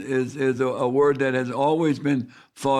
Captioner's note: none